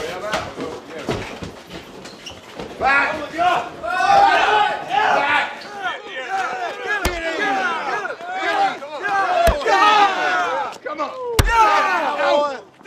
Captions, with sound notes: (people chattering) - I'm with you all! - Fight! - Yeah! (men shouting) - Get him! - Yeah! - Come on! - Yeah. - Yeah! (blows thudding)